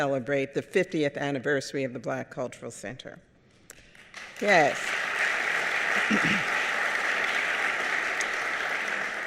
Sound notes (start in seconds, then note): 4.1 audience applauding